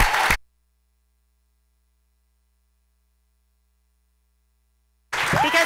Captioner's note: cheering; no audio